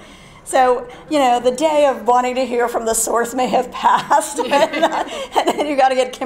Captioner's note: laugh